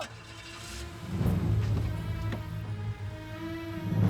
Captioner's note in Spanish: ruido al prender motores